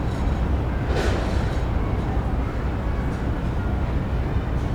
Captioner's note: train rumbling